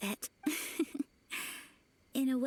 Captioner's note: laughs